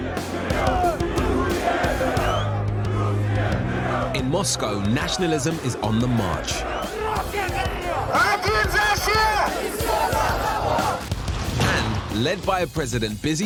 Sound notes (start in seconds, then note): 0.1 crowd chanting in foreign language; 6.9 man 1 shouts in foreign language; 8.0 man 2 shouts in foreign language; 9.5 crowd shouting in foreign language